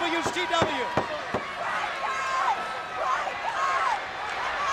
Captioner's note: Sherri thudding on ring